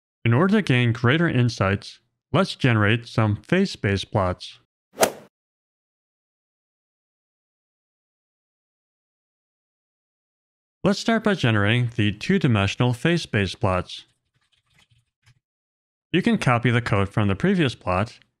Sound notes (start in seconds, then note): 5.0 golf ball hit sound effect